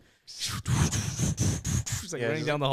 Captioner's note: snarling